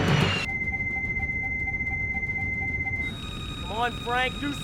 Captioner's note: loud beeping